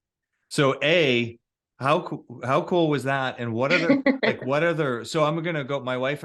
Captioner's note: chuckles